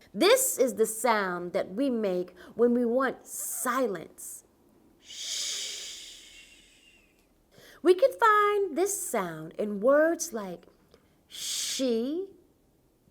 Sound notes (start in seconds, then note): 5.0 shushing